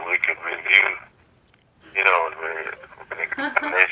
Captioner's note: laughter